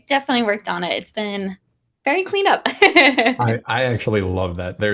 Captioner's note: laughs